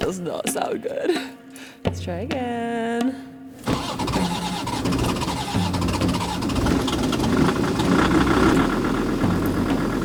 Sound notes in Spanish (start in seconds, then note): 3.6 ronroneo del motor; 7.0 motor arrancando